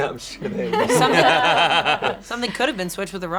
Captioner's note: group laughing